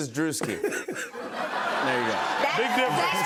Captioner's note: laughter